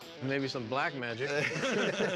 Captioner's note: laughter